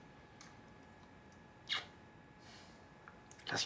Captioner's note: kissing sound